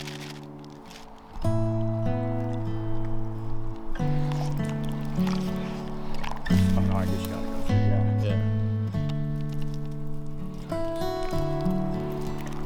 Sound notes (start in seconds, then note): 1.6 easygoing music continues; 4.2 mixture lapping; 9.6 mixture dripping